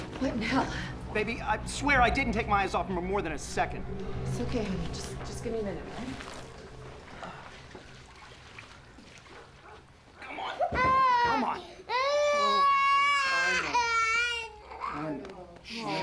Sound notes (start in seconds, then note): 10.6 ben crying